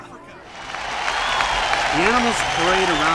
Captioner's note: la multitud anima